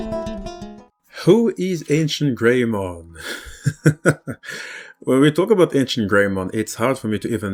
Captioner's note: laughs